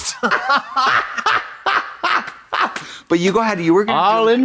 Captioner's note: blonde Women hee-haw